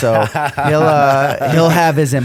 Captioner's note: laughter